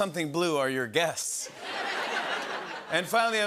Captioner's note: laughter